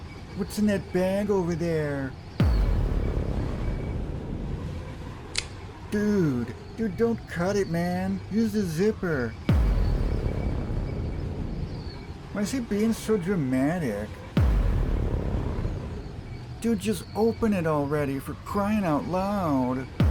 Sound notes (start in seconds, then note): 2.4 dramatic Boom; 5.3 click; 9.4 dramatic Boom; 14.3 dramatic Boom